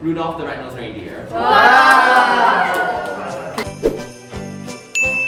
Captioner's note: everyone cheers